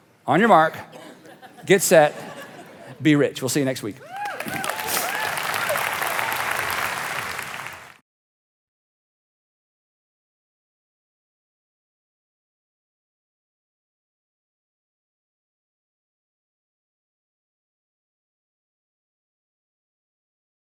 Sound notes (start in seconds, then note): 4.0 audience cheering; 4.0 audience clapping